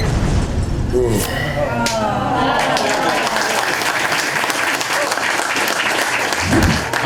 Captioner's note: crowd sympathy applause